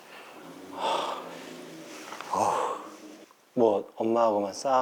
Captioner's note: huffing and puffing